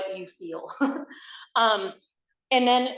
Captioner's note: laughs